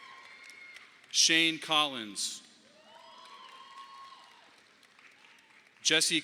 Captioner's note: audience applauding; audience applauding